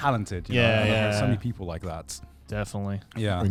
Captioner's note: laughs